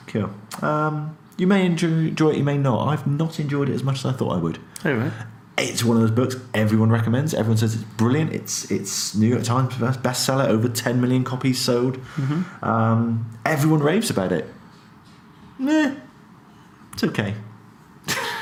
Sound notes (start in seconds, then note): 17.0 laughs